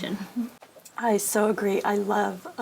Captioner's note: laugh